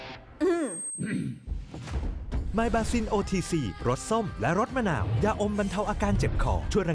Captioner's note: clears throat